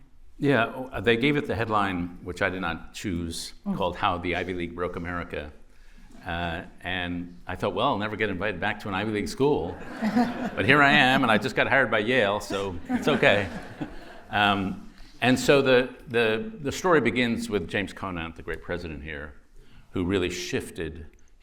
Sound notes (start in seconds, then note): 9.8 laughter